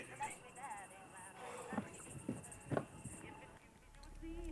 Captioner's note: sighs; muffled bright music with cheerful vocals